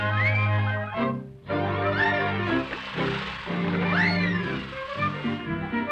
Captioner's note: joyful music; water splashing; chipper music